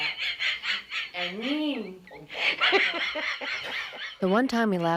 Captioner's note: laughter; speaking Chinese